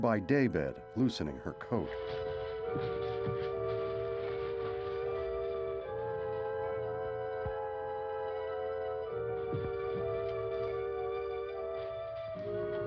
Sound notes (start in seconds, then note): none